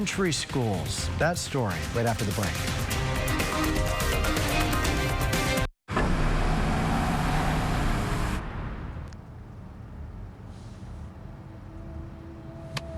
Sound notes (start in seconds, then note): 5.9 SFX: Engine sound